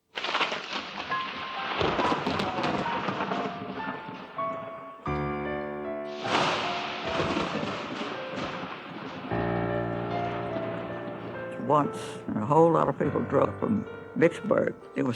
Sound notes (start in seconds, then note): 0.8 lightning Cracking